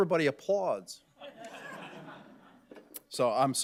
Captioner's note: audience laughing